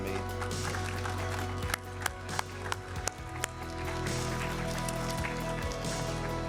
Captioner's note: upbeat music; audience and applauding